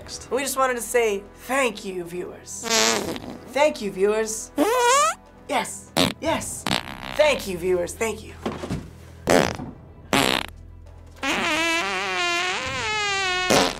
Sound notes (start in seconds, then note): 2.6 farts; 4.6 farting; 4.6 squeaky fart; 9.1 fart, fart; 11.2 prolonged, high-pitched fart